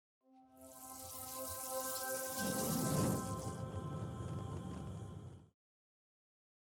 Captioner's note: gentle electronic music; flames whooshing